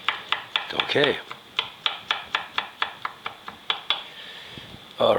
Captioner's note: knife chopping